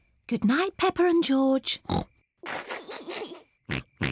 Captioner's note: oinks; snickers and oinks